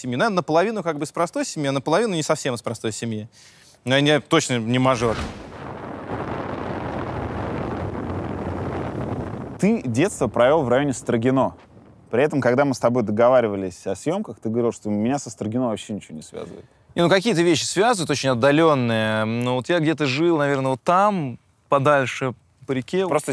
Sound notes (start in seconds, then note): 6.1 wind blowing